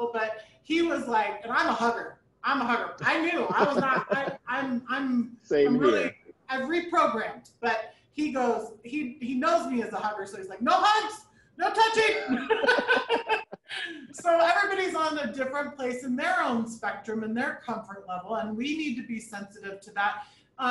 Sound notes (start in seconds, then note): 3.2 chuckling; 12.0 people laughing